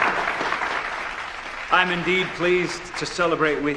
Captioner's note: applause